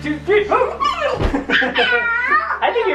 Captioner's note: laughing; grunts